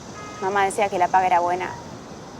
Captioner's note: vehicles Passing; horns